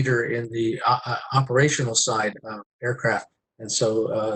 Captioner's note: murmurs